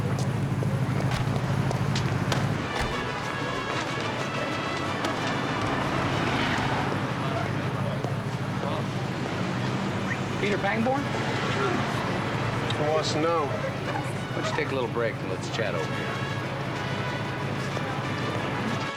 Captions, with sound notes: - (whistles) Peter Pangborn? - Who wants to know? - Why don't you take a little break, and let's chat over here.